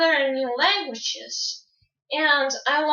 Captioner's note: none